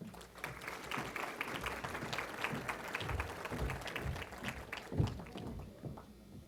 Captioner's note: applause